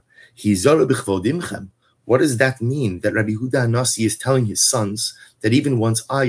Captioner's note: Hebrew